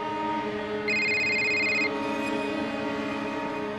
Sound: cell phone ringing

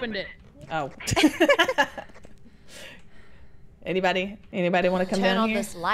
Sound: laugh

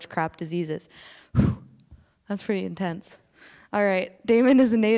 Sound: exhaling

